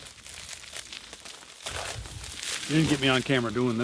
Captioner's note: çatırtı bırakır